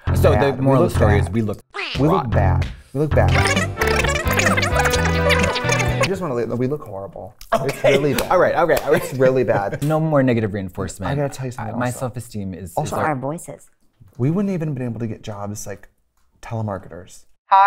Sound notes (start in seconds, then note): 3.3 fast talking